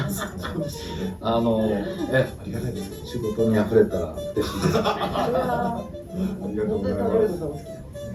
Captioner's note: laughs